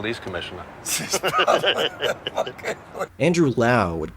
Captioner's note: laughter